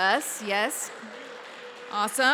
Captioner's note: applause